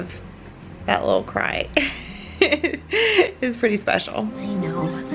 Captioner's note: laughs